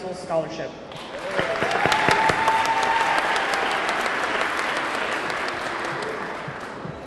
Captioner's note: audience clapping; audience cheering